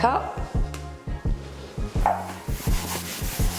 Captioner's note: scrubbing